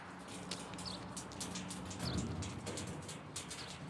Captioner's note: birds chirping